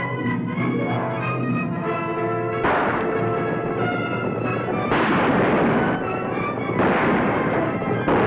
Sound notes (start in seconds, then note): 2.6 gunfire